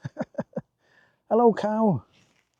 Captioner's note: laughs